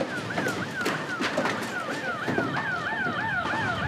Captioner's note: siren howls